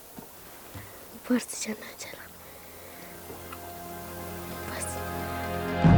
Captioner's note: speaking foreign language